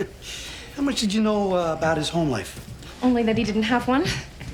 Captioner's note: laughs